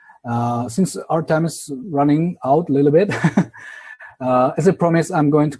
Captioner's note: laughs